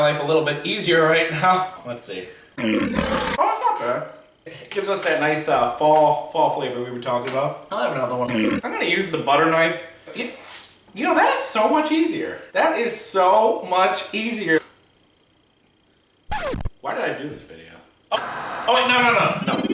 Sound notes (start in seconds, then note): 2.6 lion roaring; 8.3 lion roaring; 18.1 static